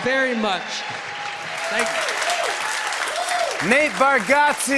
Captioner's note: cheers and applause